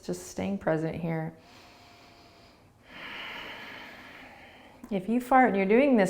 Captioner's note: breathing